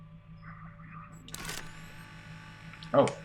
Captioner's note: machine starts whirring